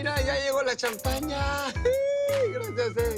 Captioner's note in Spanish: Exclamaciones